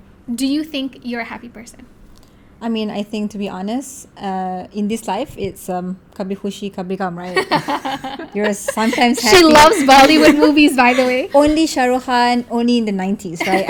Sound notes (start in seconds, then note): 7.3 laugh